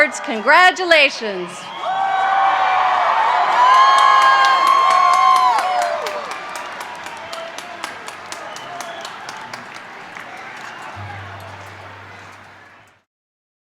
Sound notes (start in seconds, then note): 1.6 applause and cheers